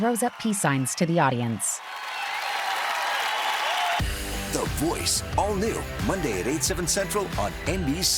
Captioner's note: cheers and applause